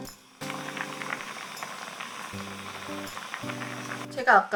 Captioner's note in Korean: 보글보글 맛있는 소리